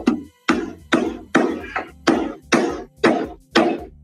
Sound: hammering

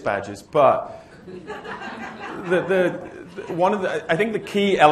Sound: laughter

